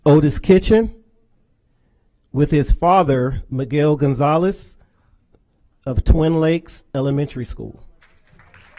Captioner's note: applause